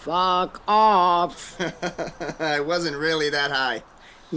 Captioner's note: laughs